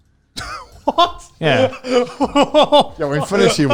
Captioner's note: laughing